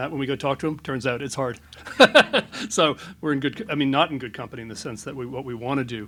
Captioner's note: laughs